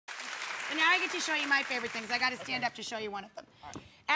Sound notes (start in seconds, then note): 0.0 applause